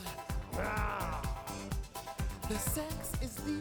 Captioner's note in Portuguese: Lola growls